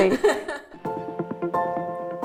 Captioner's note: laughing; cheerful music